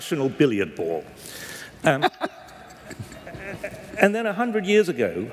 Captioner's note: laughter